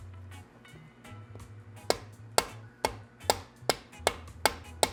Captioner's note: thudding